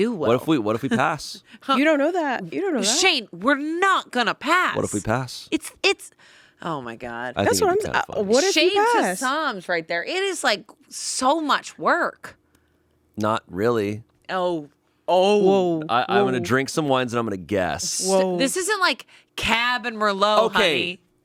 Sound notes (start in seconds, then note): none